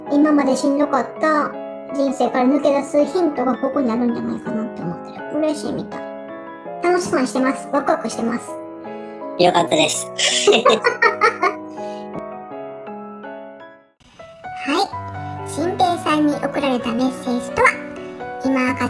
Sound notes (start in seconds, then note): 10.2 laugh